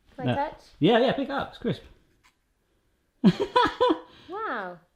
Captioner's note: laughs